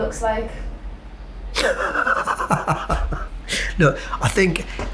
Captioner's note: laughs